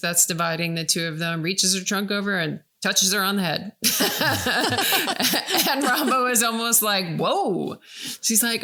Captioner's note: laughing